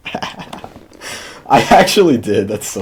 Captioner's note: laughter